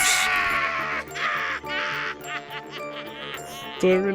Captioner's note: Joker laughing